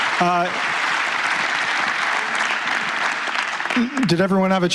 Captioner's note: applause